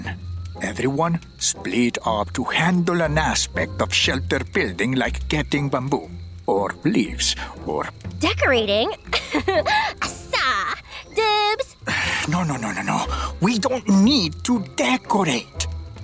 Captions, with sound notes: Everyone split up to handle an aspect of shelter-building, like getting bamboo. Or leaves or-- Decorating? [giggles] Assa! Dibs! [sighs] No, no, no, no, no. We don't need to decorate!